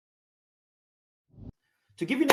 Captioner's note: air whooshing